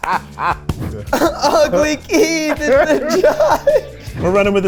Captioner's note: all laughing